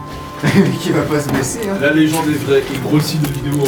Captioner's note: laughs